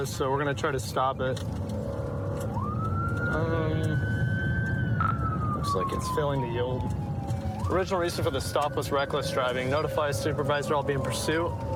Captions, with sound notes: So we're going to try to stop it. [siren wailing] Looks, like, it's failing to yield. Original reason for the stop was reckless driving. Notify a supervisor I'll be in pursuit.